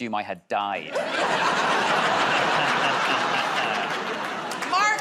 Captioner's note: laughter